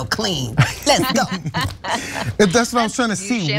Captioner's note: laugh